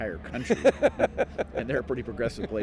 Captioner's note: laughing